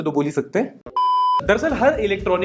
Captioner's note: beep